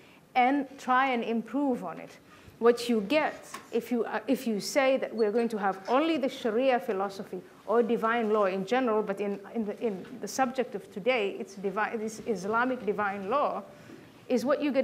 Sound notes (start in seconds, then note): none